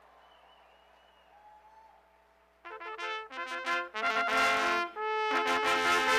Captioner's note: cheers and applause